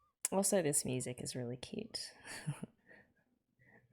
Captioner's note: chuckles